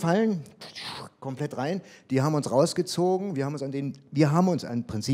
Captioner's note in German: zischt